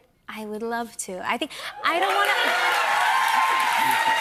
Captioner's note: cheers and applause